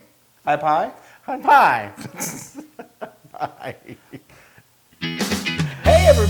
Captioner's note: laugh